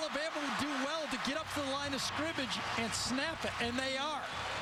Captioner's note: cheering